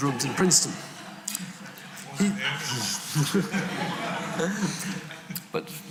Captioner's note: audience chuckling